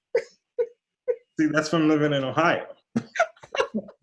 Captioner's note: laughter